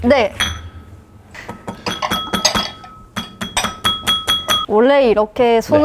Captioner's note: bang